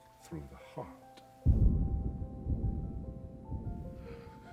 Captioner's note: faint echoing gunshot